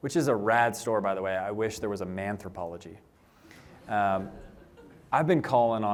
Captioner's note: laughter